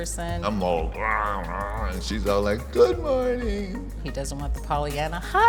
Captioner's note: growls